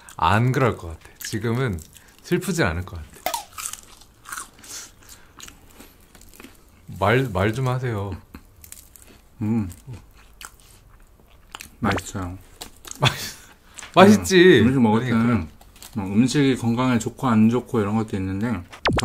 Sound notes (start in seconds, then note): 3.1 meditating in silence